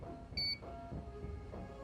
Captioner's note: beep